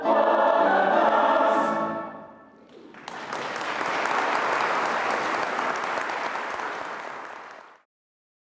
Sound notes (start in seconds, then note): 2.6 audience clapping